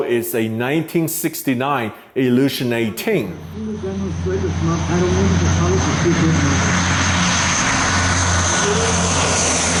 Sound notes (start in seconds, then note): 3.9 speaking in Korean